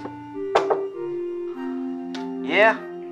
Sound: soft knocking

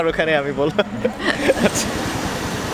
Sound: both laughing

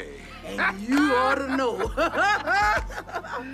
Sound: laughs

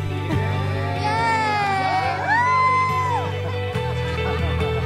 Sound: people cheering and clapping

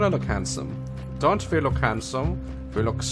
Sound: German accent

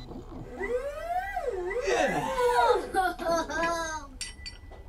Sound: mechanical whirring

